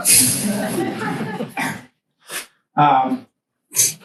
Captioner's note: students laugh